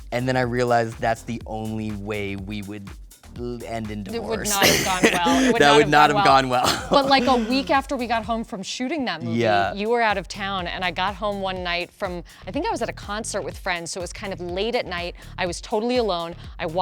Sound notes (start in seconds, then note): 6.3 Dave laughs